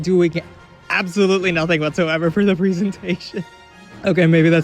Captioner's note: laughing; chuckles